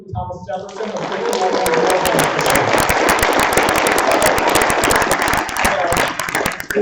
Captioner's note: applause